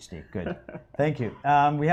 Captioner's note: laughs